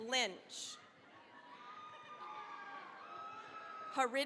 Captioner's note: cheering, applause